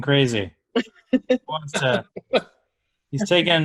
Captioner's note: laughing